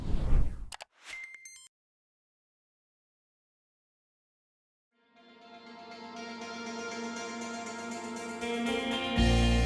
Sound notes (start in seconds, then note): 0.0 swoosh; 0.7 digital clicking; 5.4 light music